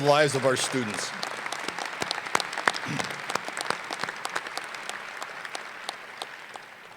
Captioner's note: applause